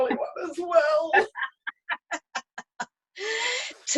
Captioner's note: both laughing